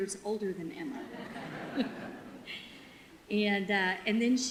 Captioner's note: audience laughter